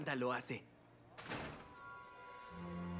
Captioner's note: door closes